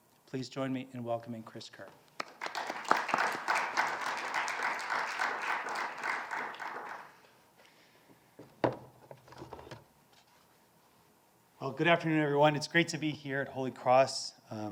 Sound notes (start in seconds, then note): 2.2 participants applauding